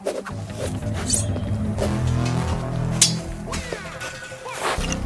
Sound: wind whooshing; swords slashing; tense music

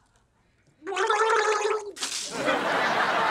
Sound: gargling

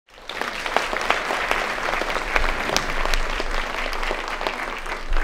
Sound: audience applauding

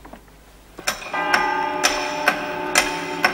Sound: clock ticking and chiming

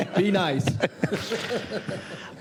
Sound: laughter

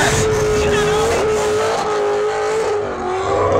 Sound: engine roaring

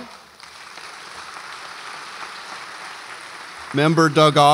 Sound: audience applauds

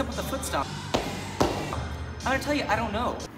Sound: feet stomping

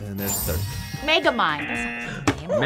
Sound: buzzer barks; buzzer

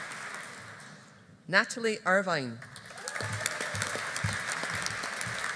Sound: audience applauding

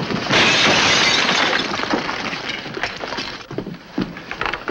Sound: glass shattering

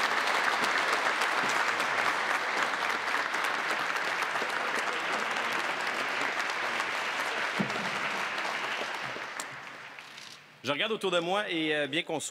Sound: applause

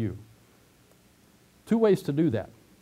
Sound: pause

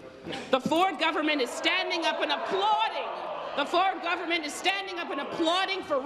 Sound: applause

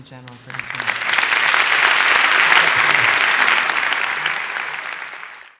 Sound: applause

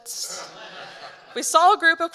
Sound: audience laughing

